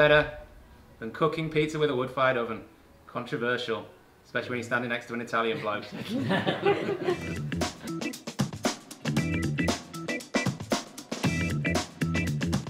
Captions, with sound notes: than cooking pizza with a wood-fired oven, controversial, especially when you're standing next to an Italian bloke. (all laughing)